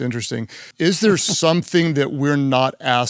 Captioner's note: Simon chuckles